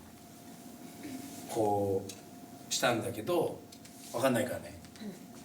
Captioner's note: speaking Japanese